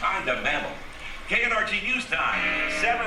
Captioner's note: gong